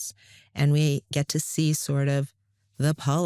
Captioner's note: none